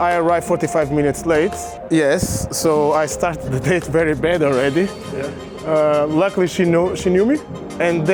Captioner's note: none